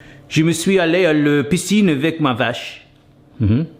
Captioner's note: speaks French